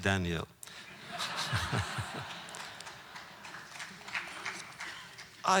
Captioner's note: audience applause